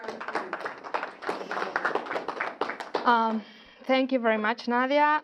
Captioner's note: audience applause